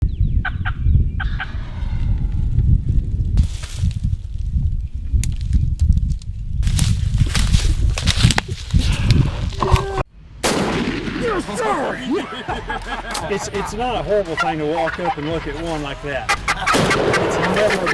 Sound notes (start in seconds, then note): 1.2 hunter calls and turkey gobbles in response; 3.4 leaves and brush crunching; 8.4 laughing and hands clapping; 10.4 gun fires; 12.3 laughing; 16.2 turkey call gobbling; 16.3 gun shooting